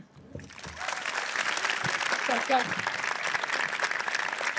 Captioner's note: audience applauds